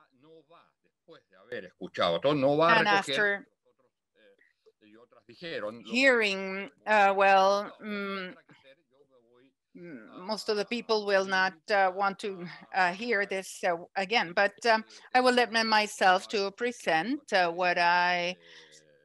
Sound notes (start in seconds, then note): 0.9 speaks foreign language